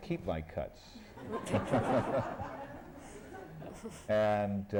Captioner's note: laughter